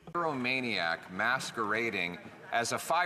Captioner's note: some Applause